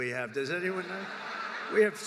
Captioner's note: laughter